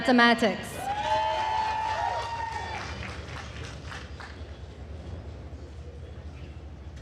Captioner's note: attendees cheering and applauding